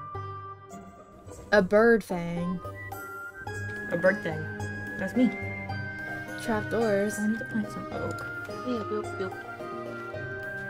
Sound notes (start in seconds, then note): none